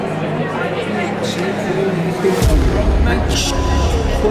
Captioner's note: people talking in background